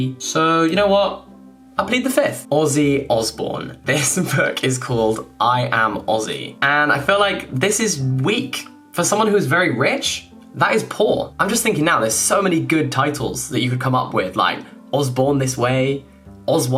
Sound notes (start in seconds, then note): none